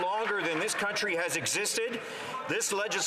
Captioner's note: some Applause